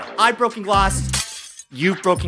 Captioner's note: glass Breaking Sound